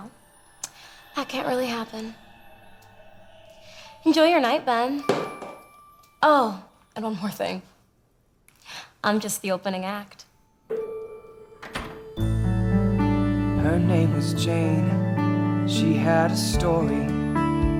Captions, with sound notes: Well… That can’t really happen. Enjoy your night, Ben. (painting falls) Oh, and one more thing. I’m just the opening act. (guitar music) HER NAME WAS JANE SHE HAD A STORY